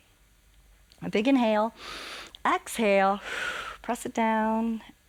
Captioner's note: exhales; inhales